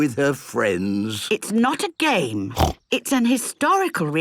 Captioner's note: snorts